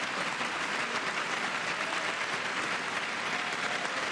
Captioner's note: applause